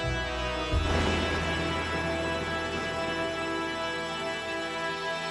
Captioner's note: lightning thunders